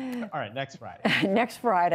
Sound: laughter

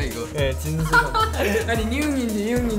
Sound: haha

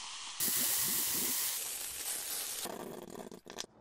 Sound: oil sizzling

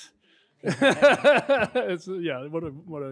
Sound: laughing

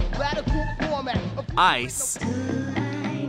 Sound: voice-over

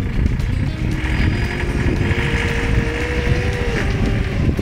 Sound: engine revving

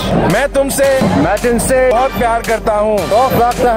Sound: non-english speech

